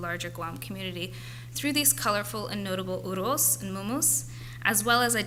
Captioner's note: foreign language